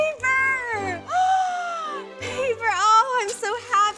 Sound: gasp

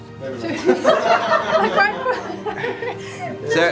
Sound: laughing

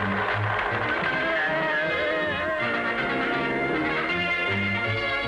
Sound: pills firing; panicked yelling

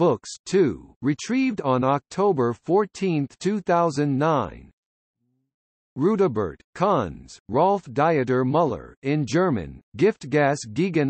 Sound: in German

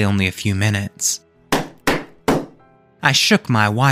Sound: knocking

